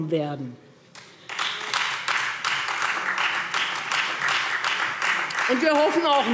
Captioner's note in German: Beifall Freie Demokraten und SPD